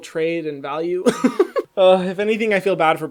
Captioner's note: laughs